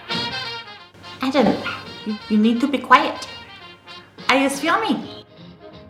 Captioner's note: bird squeak; bird muttering